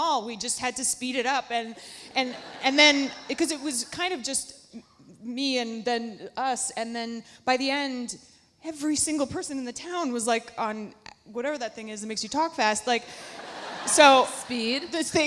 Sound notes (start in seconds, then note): 13.1 audience laughs